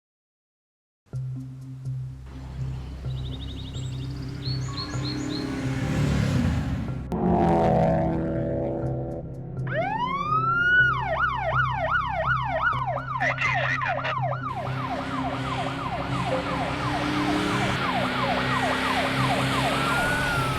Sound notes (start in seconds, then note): 4.5 suspenseful music; 9.4 car engine; 11.4 siren; 13.4 police radio chatter; 15.4 car engines